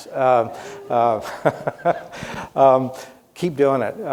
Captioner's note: laughs